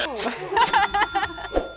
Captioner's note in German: Buzzer richtig; Jubel; ka-tsching